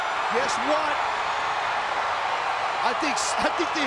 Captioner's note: crowd cheering